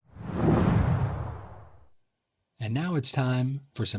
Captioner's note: air whooshing